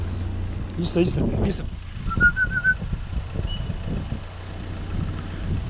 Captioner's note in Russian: Свист